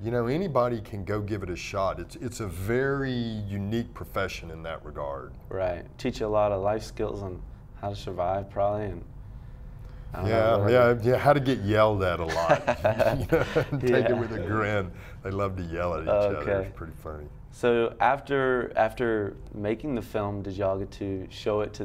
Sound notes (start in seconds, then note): 12.2 laughs